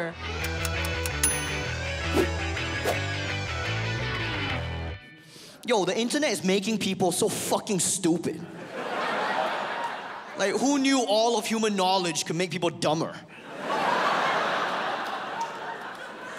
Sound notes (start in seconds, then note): 0.4 upbeat music; 8.4 audience laughs; 13.3 audience laughs